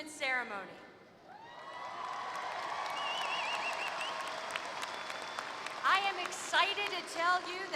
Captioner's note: applause